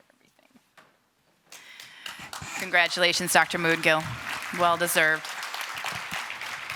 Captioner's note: applause